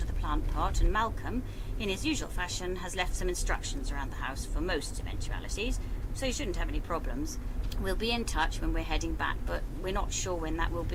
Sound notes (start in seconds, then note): none